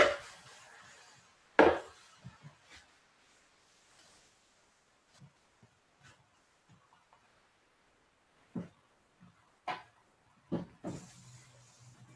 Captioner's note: silence